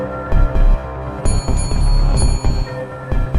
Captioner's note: small bell rings